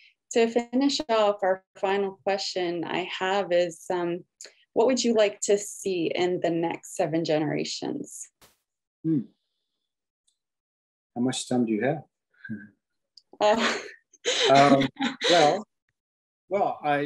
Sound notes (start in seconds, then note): 14.2 laughs